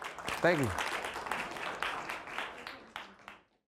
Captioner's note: applause